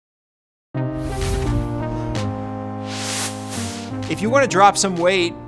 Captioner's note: air whooshes; bright music